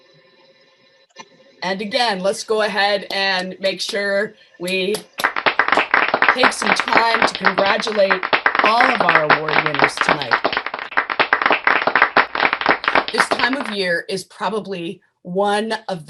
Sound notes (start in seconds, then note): 11.4 applause